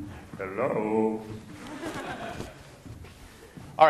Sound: class laughing

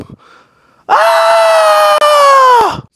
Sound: scream

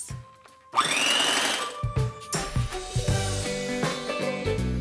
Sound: mixer whirring

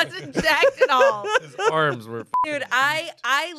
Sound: beep

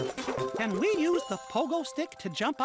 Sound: ring, ring

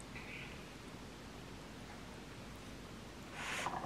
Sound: eating

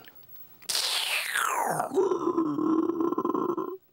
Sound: imitates water draining

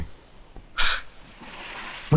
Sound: sighs

